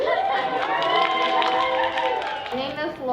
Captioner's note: cheering